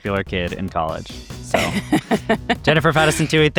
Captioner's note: laughs